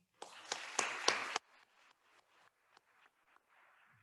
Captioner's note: attendees applauding